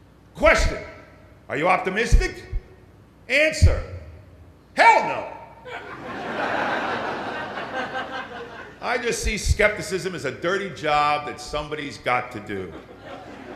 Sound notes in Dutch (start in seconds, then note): 5.6 Gelach